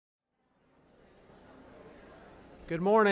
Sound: audience chattering

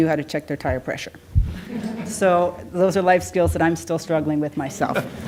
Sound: laughter; laughter

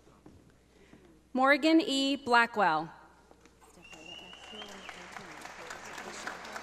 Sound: audience applauding

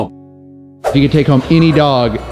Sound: screen swooshes

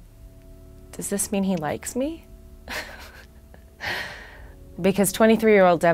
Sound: chuckles

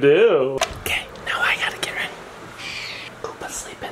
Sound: whispering

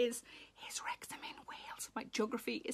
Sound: Sarah whispers

